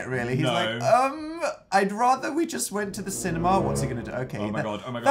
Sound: none

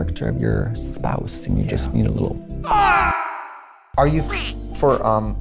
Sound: screams

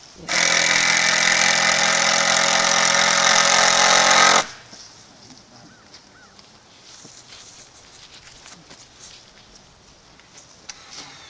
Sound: sound of screw gun

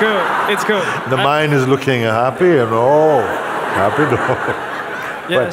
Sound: laughter

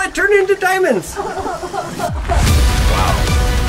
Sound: laughs

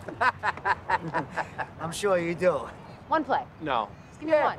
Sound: laughter

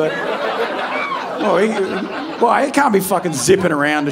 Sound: audience laughing

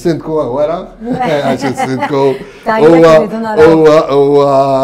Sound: laughs

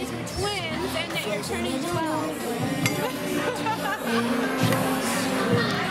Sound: laughing

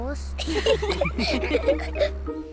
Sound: all giggle

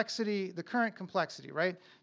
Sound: none

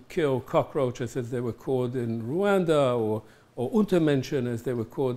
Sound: german

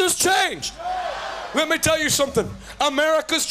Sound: crowd shouting no

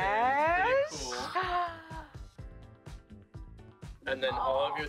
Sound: gasps

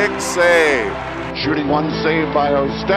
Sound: cheering

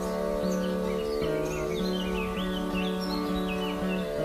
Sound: chirping of birds

